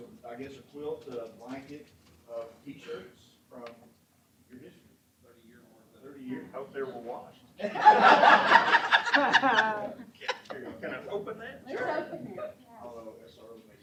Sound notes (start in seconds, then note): 7.6 laughter